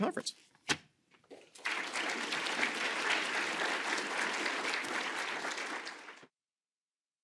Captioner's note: applause